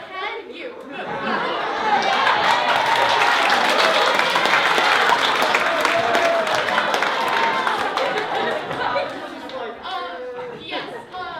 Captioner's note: applause